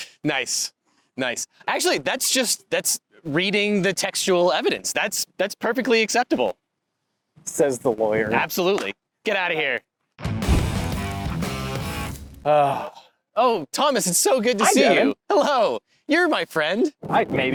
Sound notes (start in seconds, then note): 10.2 cool rock music; 14.6 exhales